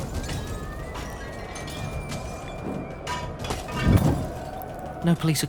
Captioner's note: people shouting in the distance